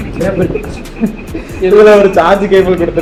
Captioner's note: laughing